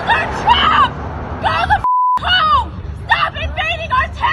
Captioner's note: beep